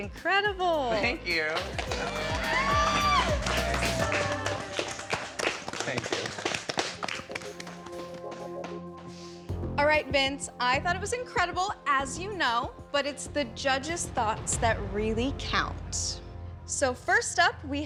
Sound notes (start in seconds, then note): 1.7 cheering